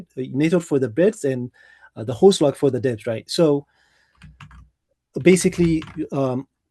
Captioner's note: keyboard clicking